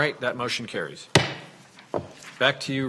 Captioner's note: gavel bangs